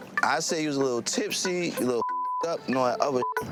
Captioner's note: beeps